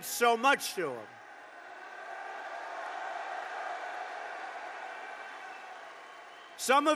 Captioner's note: applause